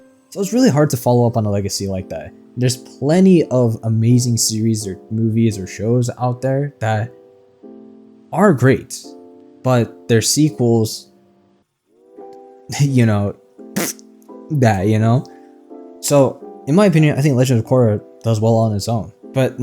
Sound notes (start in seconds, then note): 13.8 fart noise